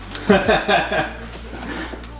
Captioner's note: laughing